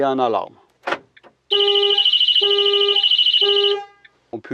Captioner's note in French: Bip de fermeture et alarme